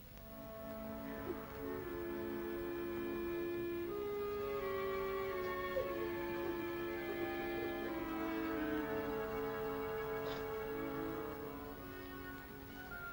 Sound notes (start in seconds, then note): 0.0 soft ominous music; 5.5 sobs; 5.5 soft ominous music